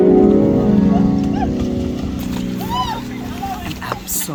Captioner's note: harp music; laughing and indistinct chatter